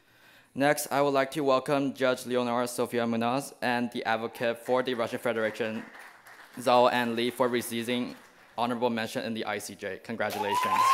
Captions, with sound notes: Next, I would like to welcome Judge Lenora Sophia Manaz and the advocate of the Russian Federation. (small claps) Zoa Ann Lee for receiving honorable mention in the ICJ. Congratulations.